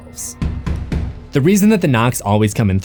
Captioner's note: knock knock knock